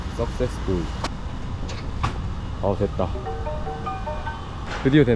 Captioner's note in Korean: 반가운 알림음